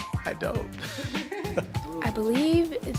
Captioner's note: laughs